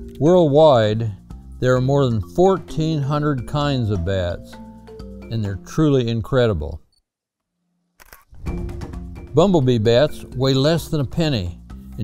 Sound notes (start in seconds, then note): 8.0 camera clicks